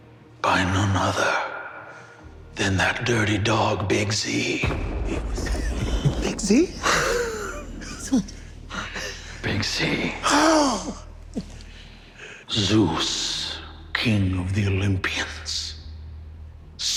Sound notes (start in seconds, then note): 4.6 thunder crashes